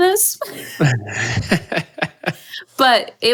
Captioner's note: laughs